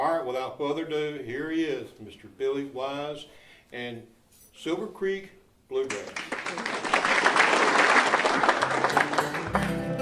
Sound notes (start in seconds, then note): 5.8 applauding